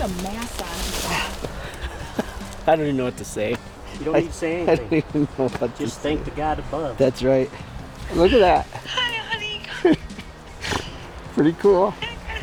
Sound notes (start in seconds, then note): 1.0 laughs; 10.5 laughs